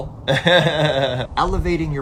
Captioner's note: laughs